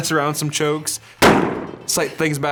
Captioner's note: gunshot